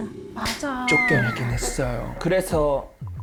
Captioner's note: awkward sound effect